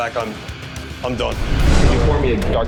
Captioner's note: scene whooshing